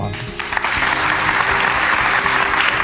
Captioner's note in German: Applaus